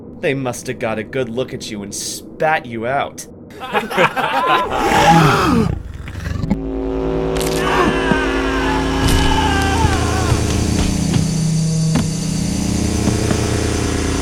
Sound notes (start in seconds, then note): 3.5 bullies laughing; 4.4 alien growling; 7.5 thugs screaming